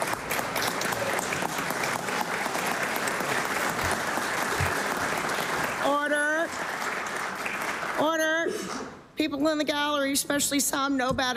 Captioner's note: applause